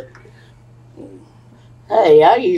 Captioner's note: laughs